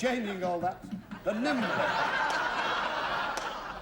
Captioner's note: laughter